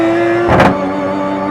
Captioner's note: car bumps object